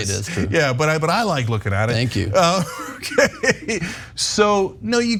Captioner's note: laugh